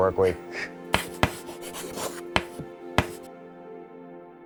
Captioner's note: chalk writing